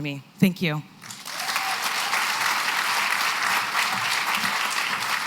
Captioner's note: applause